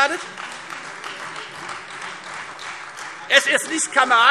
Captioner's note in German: Beifall Freie Demokraten